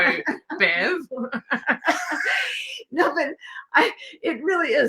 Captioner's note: laughing